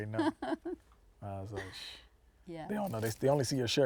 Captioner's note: laughing